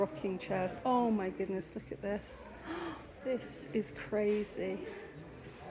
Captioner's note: gasp